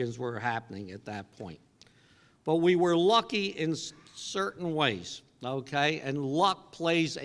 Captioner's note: cough